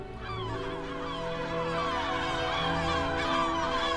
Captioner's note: gulls cawing